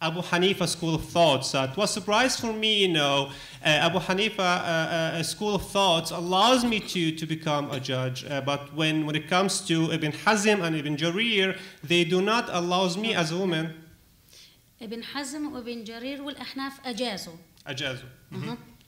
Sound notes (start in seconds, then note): 14.8 speaking arabic